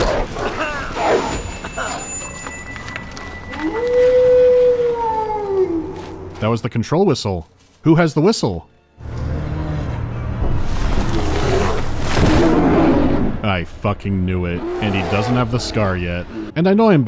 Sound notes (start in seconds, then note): 0.0 wolf growling, screams of pain and panicked shots; 0.8 thin whistle; 9.1 bear growling